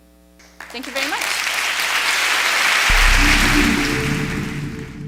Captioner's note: audience clapping